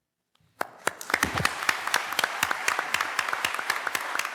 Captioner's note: applause